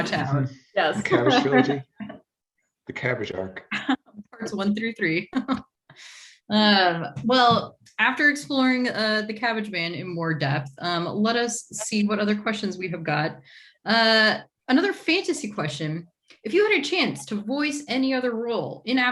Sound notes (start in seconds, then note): 6.5 chuckles